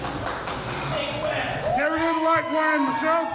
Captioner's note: crowd claps; crowd cheers